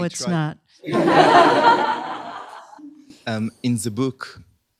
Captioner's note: laughter